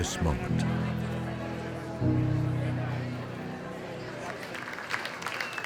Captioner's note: background chatter; applause and cheering